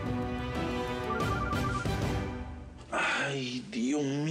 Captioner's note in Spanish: suena el celular